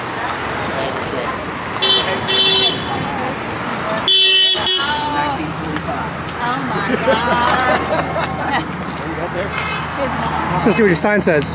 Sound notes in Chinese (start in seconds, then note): 1.8 喇叭聲; 8.6 笑聲